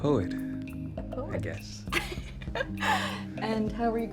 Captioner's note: laughs